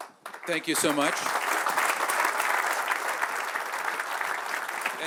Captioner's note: applause